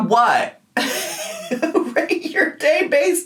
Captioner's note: laughing